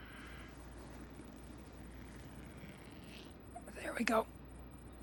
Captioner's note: sound of a zipper